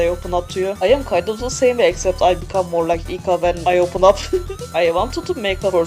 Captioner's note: laughs